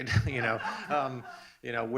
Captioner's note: laughs